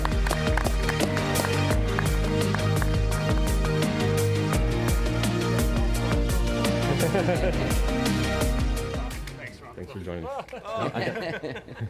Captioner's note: applause